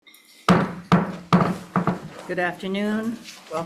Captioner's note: gavel bangs